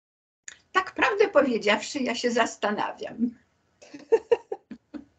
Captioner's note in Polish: śmiech